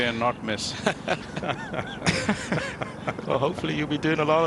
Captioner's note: laughter